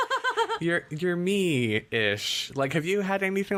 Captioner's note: laughs